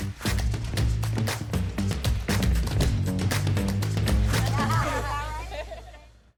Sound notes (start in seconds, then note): 0.0 upbeat music continues; 4.4 laughs